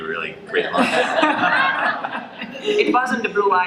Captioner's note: laughter